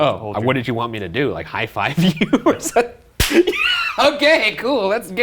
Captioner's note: laughs